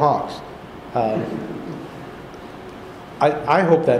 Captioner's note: laughter